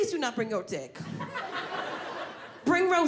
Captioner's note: audience laughing